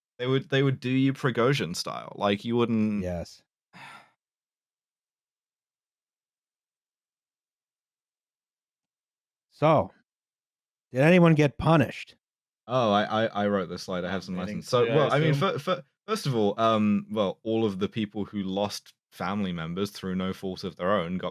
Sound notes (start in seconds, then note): 3.8 sighs; 4.6 silence